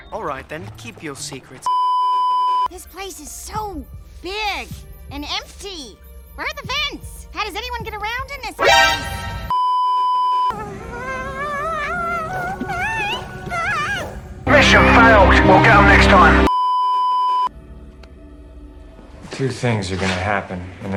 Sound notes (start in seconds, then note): 1.7 beeeeeeeeeeeep; 9.5 beeeeeeeeeeeep; 16.4 beeeeeeeeeeeep